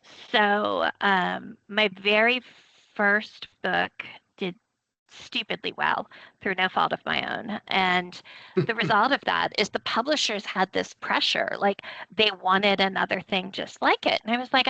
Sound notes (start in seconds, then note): 7.1 chuckling